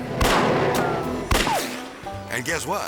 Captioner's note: dramatic Western music; gun fires